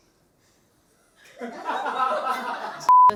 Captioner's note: laughing